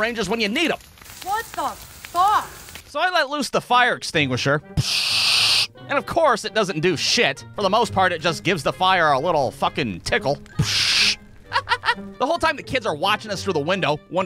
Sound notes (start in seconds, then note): 4.8 pshhhhhhhh!; 10.5 pshhhhhh!